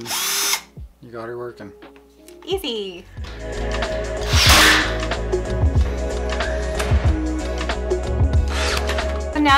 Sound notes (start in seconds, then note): 0.0 drill buzzes; 4.2 drill buzzing; 8.3 light music